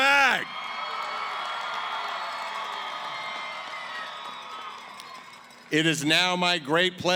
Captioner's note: cheering & applause